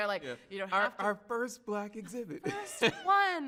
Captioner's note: chuckles